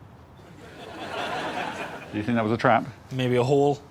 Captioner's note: laughter